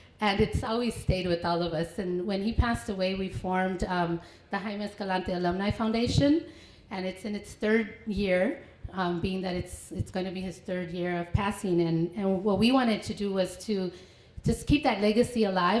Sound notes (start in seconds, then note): none